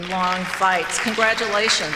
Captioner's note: clapping